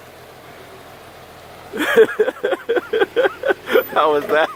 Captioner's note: laughing